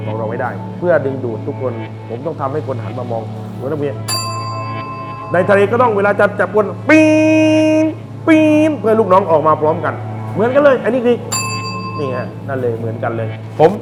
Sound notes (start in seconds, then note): 4.0 ding